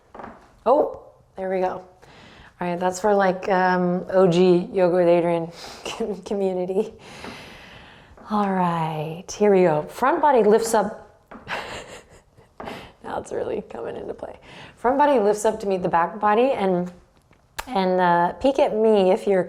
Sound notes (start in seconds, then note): 0.0 floor creaks; 11.2 floor creaks; 11.6 laughs